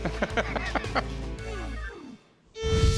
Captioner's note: laughs